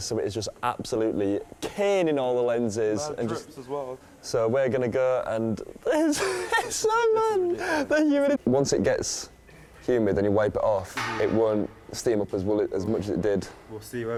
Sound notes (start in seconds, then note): 5.9 laughs